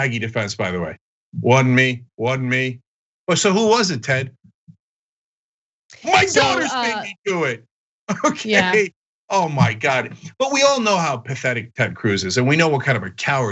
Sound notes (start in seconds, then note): 8.1 laugh